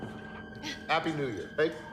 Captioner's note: Brandi laughs